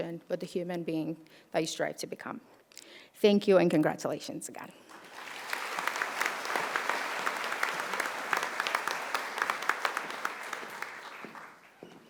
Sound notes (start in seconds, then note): 4.9 audience applauding